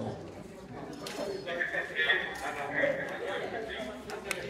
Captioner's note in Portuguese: Homem falando em alto-falante